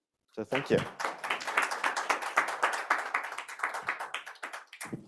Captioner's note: audience applauds